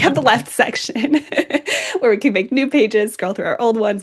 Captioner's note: laughs